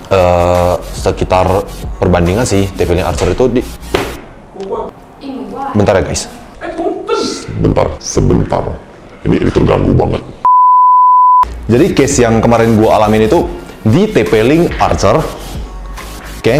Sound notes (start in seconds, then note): 3.7 thud; 10.5 intense boosted static